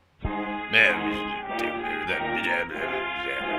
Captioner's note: Churchillian noises